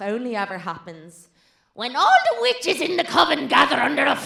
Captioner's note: in a witchy voice